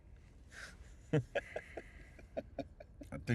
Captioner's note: laughing